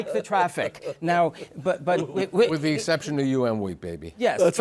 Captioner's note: laughing